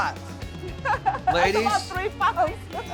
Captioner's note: chuckling